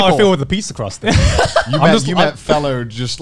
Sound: laughs

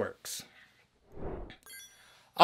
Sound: whoosh

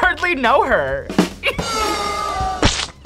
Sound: rim shot; crowd boos; tomato squelches

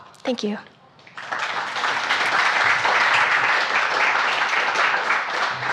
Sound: audience applauds

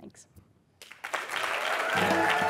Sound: applause

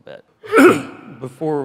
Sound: coughs loudly

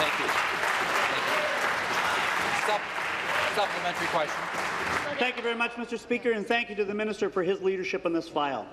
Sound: applause

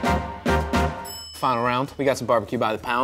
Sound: upbeat music; bell dings

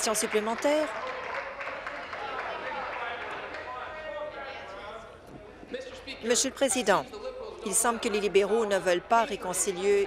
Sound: applause

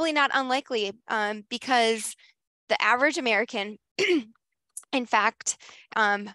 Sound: clears throat

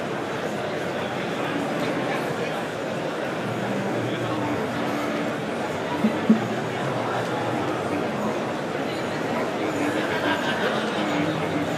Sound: sounds of the crowd

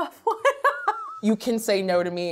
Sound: laughs

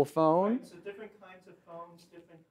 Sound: voiceover

